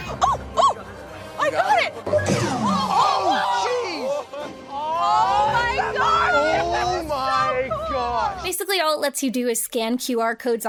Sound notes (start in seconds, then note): 2.3 antenna zapping